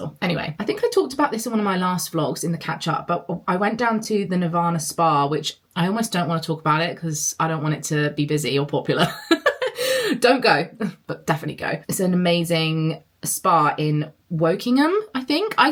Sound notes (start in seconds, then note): 9.1 laughs